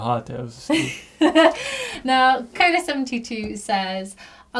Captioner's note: laughs